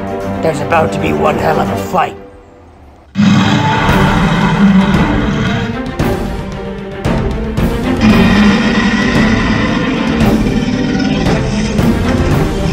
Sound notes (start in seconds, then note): 3.1 dramatic music; 3.1 T-Rex roars loudly